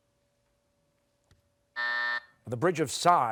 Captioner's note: buzzer